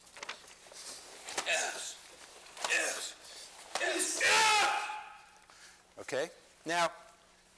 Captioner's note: vocalizing with each punch